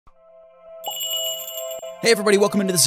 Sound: magical jingle

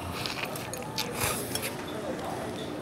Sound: slurping

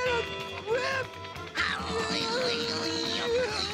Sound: moaning

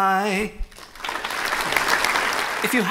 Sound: applause

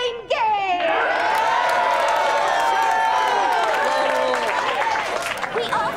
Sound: cheering

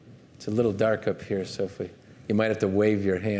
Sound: speaking faintly

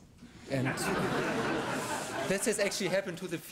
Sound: laughter

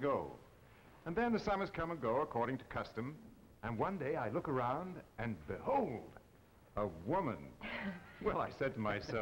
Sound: Marie laughs

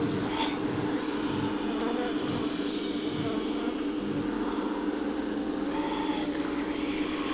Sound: buzzing; ghostly whispering

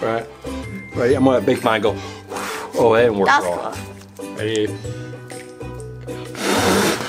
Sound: blowing air

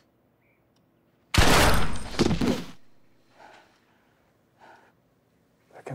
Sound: gasping; gun blasting; body thudding

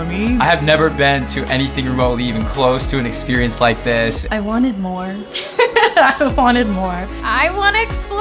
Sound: laughing

